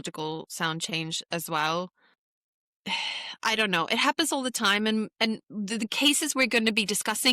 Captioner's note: sighs